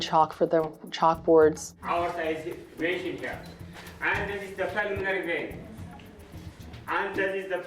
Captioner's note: foreign Language